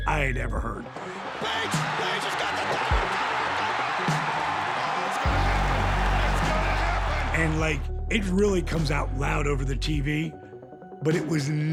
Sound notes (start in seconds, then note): 1.1 applause